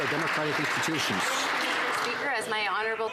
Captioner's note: some Applause